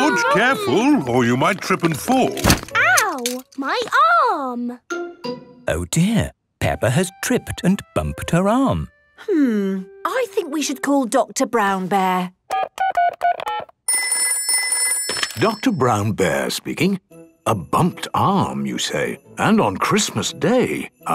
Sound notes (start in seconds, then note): 2.3 thumps; 12.3 dial tones beeping; 13.9 ringing